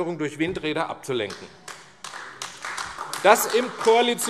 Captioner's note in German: Beifall AfD